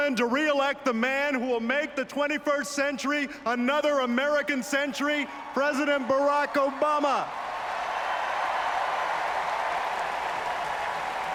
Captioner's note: applause